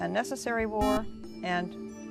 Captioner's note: buzzer